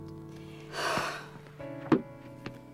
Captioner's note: exhales sharply